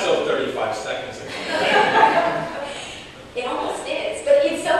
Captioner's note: laughter